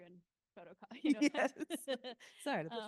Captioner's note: laughing